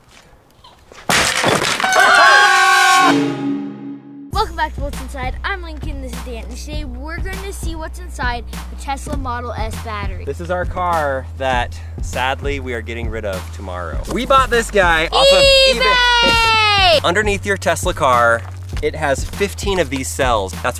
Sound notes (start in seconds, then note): 1.1 smash; 1.8 people cheering